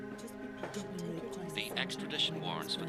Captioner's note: chattering